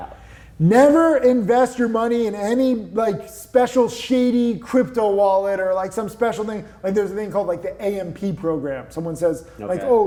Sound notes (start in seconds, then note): none